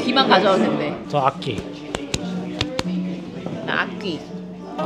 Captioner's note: claps hands